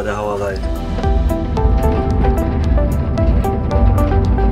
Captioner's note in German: dumpfes tiefes Grollen